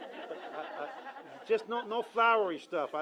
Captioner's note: laughter